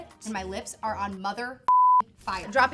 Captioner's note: beep